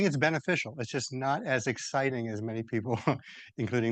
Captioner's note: laughs